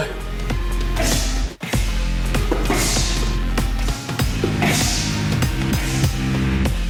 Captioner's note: bright electronic music; hushes